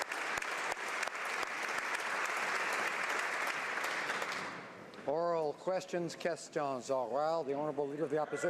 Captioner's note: applause